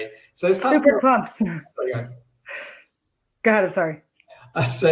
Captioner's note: laughs